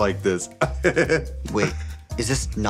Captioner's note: laughs